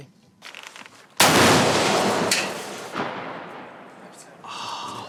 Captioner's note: rocket fires loudly